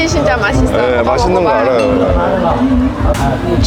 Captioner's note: laughing